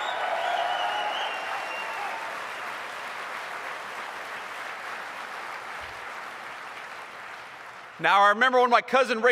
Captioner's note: applause